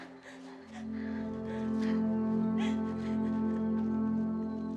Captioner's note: Betty crying